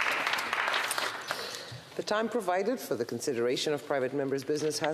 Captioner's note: some Applause